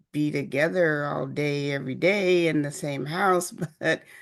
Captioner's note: chuckles